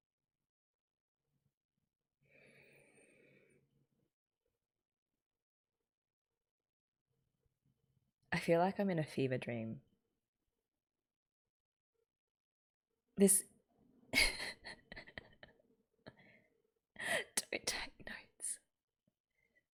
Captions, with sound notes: I feel like I'm in a fever dream. This - [laughs] Don't take notes!